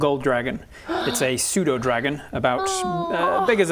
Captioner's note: gasp!